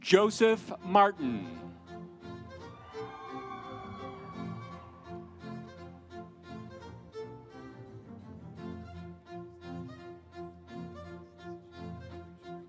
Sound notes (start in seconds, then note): 2.6 audience cheering; 3.1 instrumental music